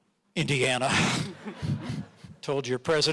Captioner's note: audience laughing